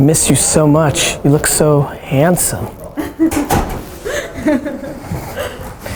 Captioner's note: woman laughing